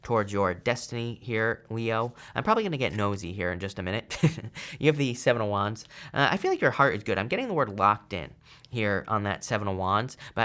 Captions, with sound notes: toward your destiny here, Leo. I'm probably gonna get nosy here in just a minute (chuckles). You have the Seven of Wands. I feel like your heart is good. I'm getting the word locked in here on that Seven of Wands.